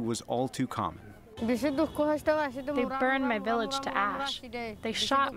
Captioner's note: through translator